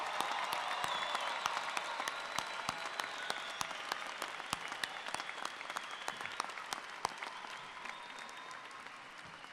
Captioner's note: cheers and Applause